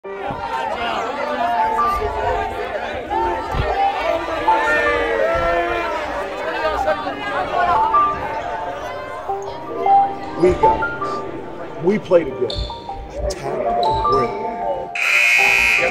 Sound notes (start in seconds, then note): 0.0 soft piano music; 3.9 shouting; 7.5 soft piano music; 14.9 buzzer sounding